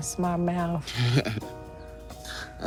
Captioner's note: chuckles